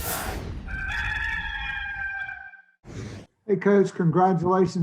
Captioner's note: cock crows